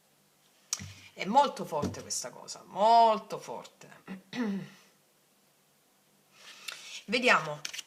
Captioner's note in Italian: schiarire la voce